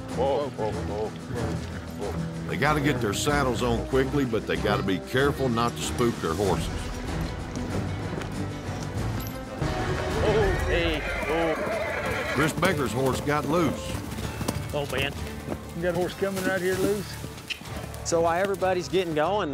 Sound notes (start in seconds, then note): 10.1 horse neighs wildly